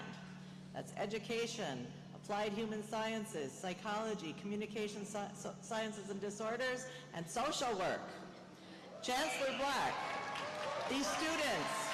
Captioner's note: cheers and applause